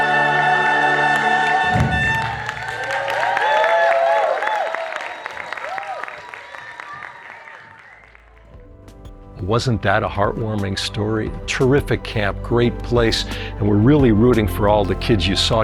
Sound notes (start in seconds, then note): 1.1 applause